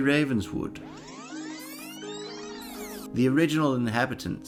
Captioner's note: fast Forward Tape Sound